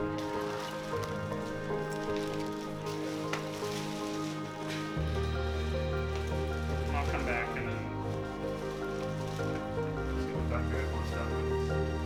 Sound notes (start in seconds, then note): 0.8 rustling